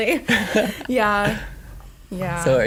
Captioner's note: laughing